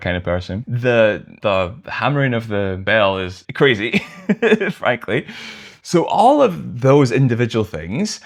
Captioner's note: laughter